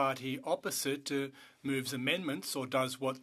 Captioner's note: speaking French